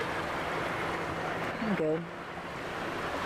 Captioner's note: none